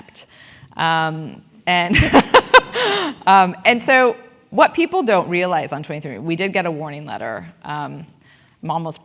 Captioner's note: laugh